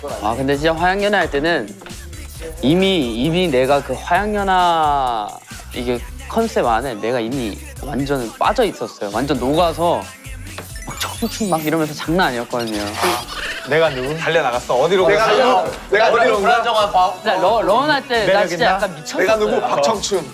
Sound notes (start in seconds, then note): 12.5 laughs